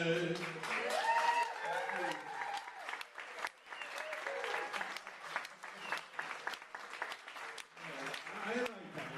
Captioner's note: applause and Cheering